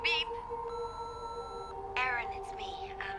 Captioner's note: machine beeps